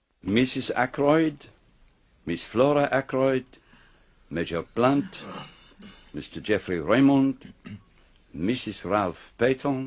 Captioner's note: clears throat